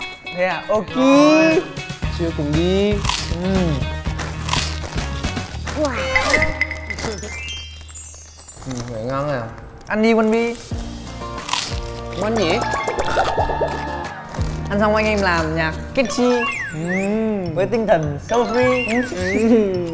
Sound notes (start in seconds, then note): 2.9 crunchy